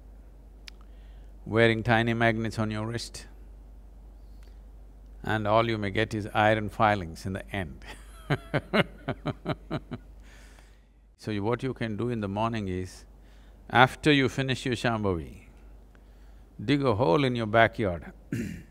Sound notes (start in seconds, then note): 8.0 laughs